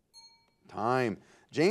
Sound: bell rings

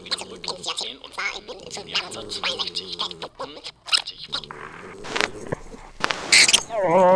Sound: non-Diegetic Audio: Distorted Vocals on Audio Cassette Tape

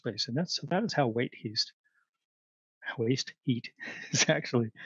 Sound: laughter

